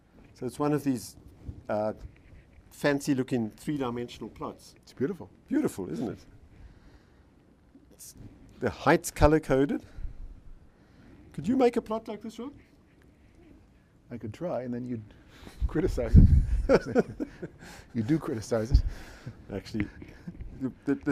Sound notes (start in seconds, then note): 16.2 laughs